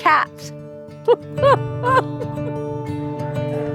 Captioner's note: laughs